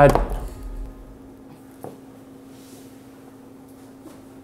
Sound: chicken smacks

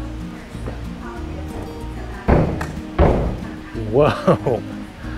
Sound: footsteps thudding; chuckles

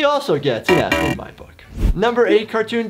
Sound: buzzing

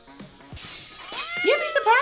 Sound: glass breaks; cat screams

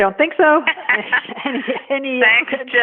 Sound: laughing

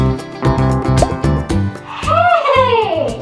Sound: screen pops

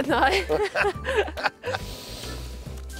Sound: giggles

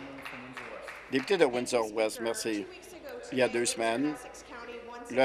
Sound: applause

